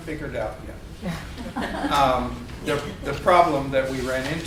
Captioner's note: group laughing